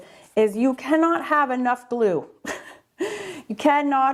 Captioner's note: laughs